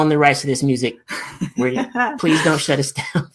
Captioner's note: laughs